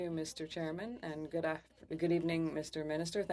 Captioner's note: speaking French